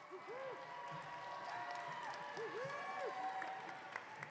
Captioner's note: audience cheering